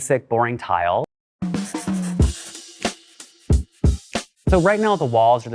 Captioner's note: upbeat music; pencil scribbling